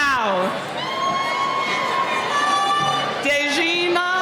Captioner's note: cheering